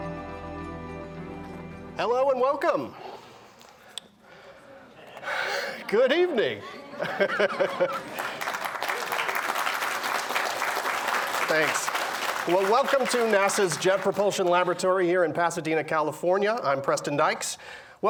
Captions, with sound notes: >> Hello and welcome. Good evening. [laughs] [applause] Thanks. Well welcome to NASA's Jet Propulsion Laboratory here in Pasadena, California, I'm Preston Dyches.